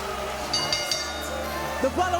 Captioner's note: bell dinging